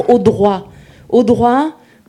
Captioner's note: speaking in French